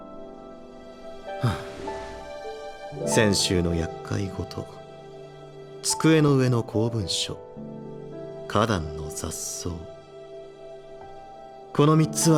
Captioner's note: sigh